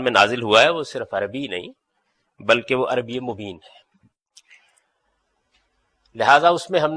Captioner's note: eloquent Arabic